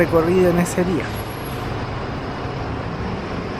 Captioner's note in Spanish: sonido ambiente de los buses en el lugar